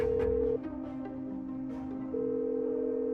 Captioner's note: line ringing